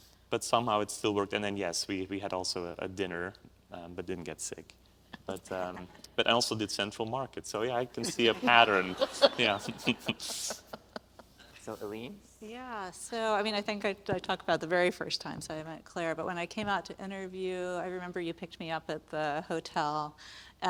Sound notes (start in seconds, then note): 8.0 panel laughs